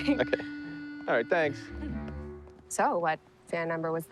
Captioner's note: chuckling